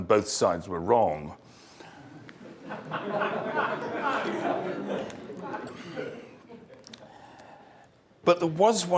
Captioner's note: laugh